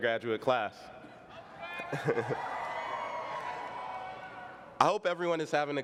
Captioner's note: cheering